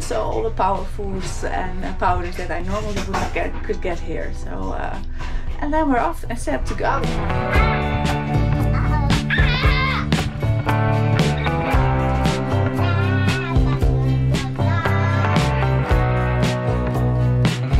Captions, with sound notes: So all the power foods and the powders that I normally would get, could get here. So, uh, and then we're off. All set to go! (mood music) - (screams)